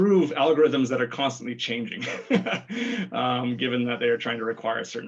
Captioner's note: laughs